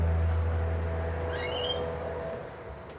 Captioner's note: door squeaks